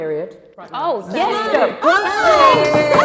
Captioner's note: laughter